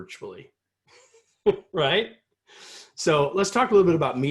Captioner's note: laughter